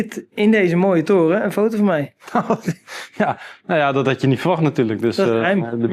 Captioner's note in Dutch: gelach